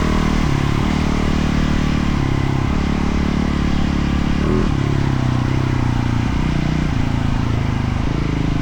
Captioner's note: engine revving